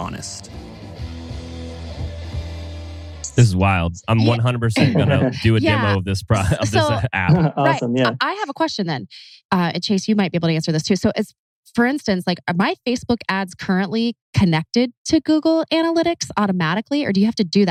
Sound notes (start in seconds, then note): 6.6 laughs